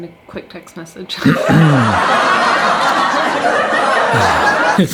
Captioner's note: background laughs